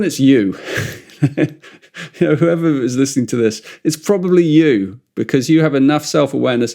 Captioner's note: laughs